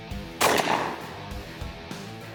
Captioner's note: gunshot